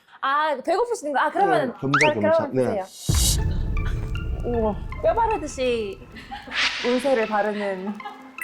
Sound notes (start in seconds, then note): 3.0 two birds with one stone sound effect